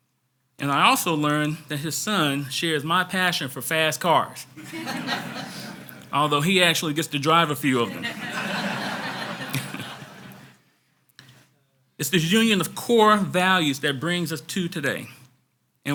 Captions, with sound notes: And I also learned that his son shares my passion for fast cars. (audience laughs) Although he actually gets to drive a few of them. (audience laughs) (laughs) It's the union of core values that brings us to today,